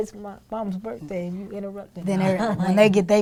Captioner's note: laughing